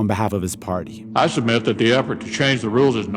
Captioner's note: soundbite of archived recording